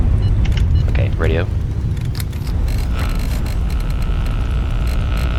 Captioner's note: Static